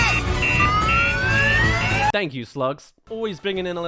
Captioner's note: car alarm